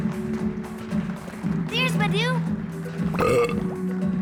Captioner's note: sighs